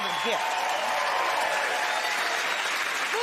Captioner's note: cheers and applause